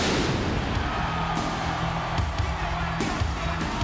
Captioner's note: pyro popping; audience cheering